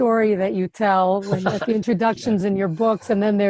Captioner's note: laughing